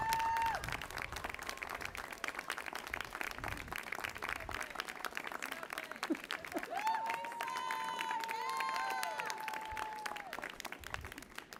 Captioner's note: applause